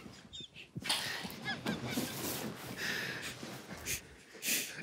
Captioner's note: group quietly laughing